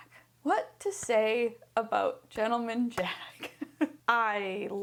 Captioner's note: chuckles